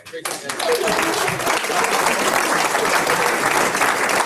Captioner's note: audience applauds